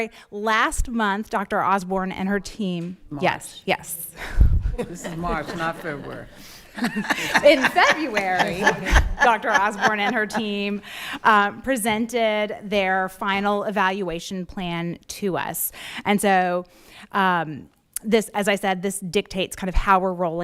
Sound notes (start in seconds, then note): 4.7 laughing; 4.7 laughs; 6.7 laughing